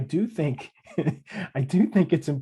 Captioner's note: laughing